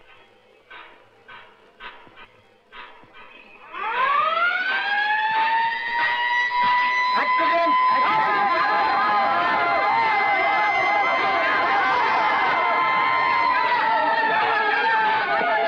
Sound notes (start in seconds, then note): 3.6 sirens Wailing